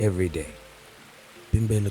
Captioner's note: water pouring